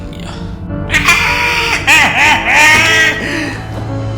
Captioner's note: evil, crazy, laughter